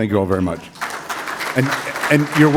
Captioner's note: applause